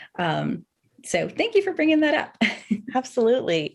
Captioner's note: laughs